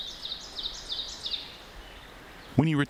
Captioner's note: birds singing